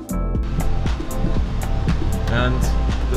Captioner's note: engine running